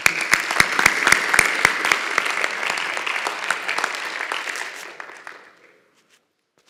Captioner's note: applause